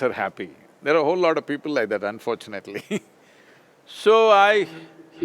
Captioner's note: laughs